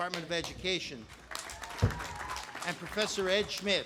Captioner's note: audience applauding